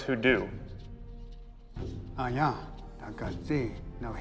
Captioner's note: speaking Cherokee